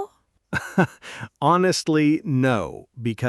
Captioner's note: laughs